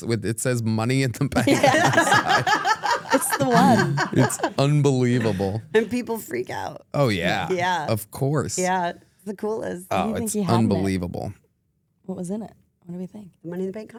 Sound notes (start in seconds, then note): 1.4 everyone laughing